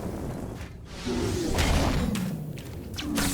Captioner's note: exploding